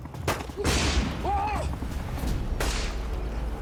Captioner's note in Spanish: Explosión; Gritos; Disparos